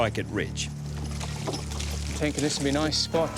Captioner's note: water splashing